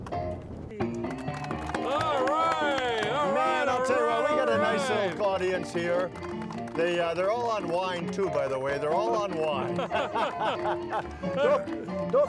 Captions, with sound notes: (honky-tonk piano music) (audience applauding) - All right! All right, - all right, all right! - Man, I'll tell you what, we got a nice old audience here. They are, they're all on wine too, by the way, they're all on wine. (laughing)